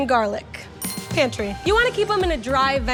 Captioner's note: bell chimes